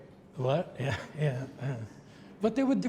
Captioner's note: laughs